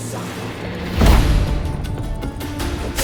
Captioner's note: thunderous boom